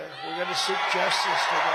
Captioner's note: crowd cheering